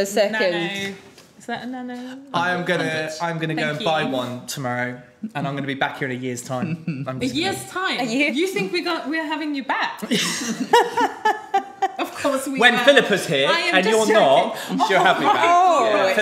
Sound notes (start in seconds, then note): 10.0 group chuckling